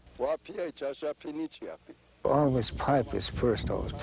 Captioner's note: speaking in foreign language